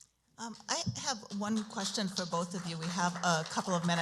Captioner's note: applause